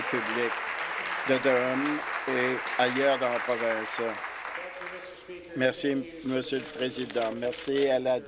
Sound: applause

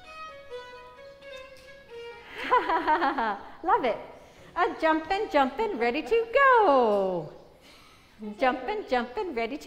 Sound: laughter

